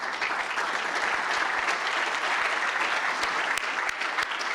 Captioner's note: applause